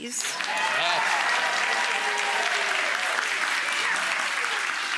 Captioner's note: audience cheering and applauding